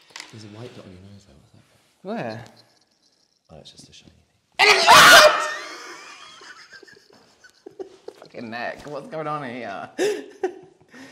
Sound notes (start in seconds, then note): 4.6 screams Something